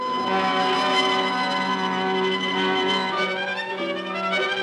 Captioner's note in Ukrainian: none